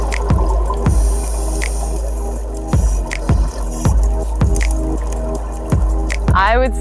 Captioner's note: mid-tempo electronic music; water gurgles